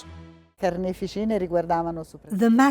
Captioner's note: speaking in foreign language